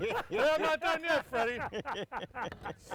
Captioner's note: laughing